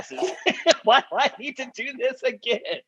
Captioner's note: laughter